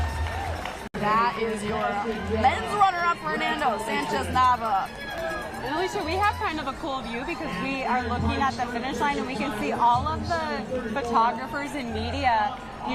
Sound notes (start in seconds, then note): 0.0 cheers and applause